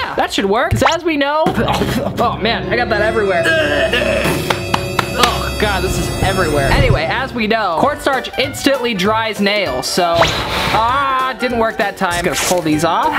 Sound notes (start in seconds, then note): 1.9 sputtering on cornstarch; 3.6 anguished coughing; 4.4 slapping hands together